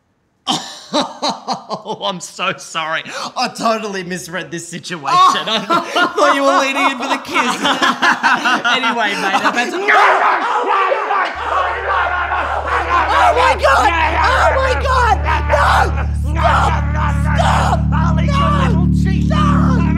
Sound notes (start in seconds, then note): 0.2 laughs; 5.1 laughter; 11.5 screams; 13.4 eating sounds